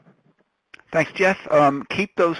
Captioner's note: voiceover